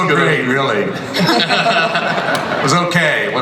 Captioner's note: laughter